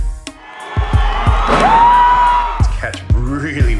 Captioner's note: crowd cheering